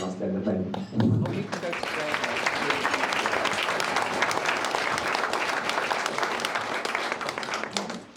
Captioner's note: audience applauding